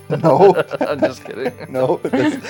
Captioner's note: laughs